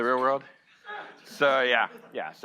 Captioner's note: audience laughing